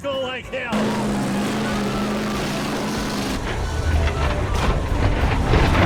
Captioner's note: engines revving; buses clunking